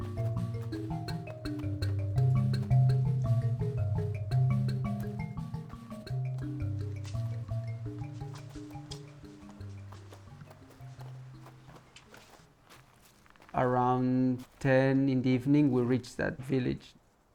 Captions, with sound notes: [FOOTSTEPS ON LEAVES] Around... 10 in the evening we reached that village.